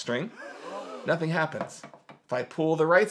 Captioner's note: canned audience gasps